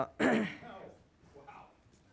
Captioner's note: clears throat